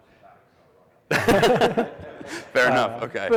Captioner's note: laughing